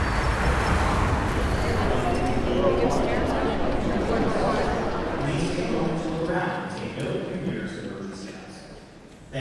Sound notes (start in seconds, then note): 2.7 audience chatter